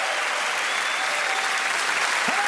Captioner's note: cheering and applause